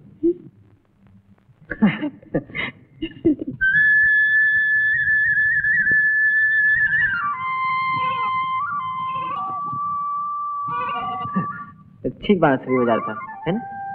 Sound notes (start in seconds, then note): 1.7 laughs; 3.4 goats bleating; 3.6 flute playing